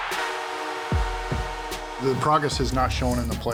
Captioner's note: goal horn blowing